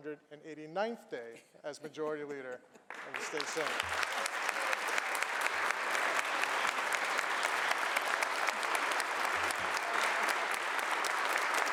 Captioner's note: applause